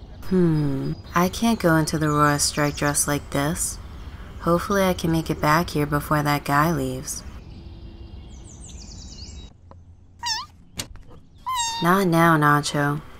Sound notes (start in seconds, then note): 7.4 birds; 10.7 door